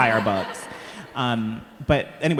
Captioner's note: all laughing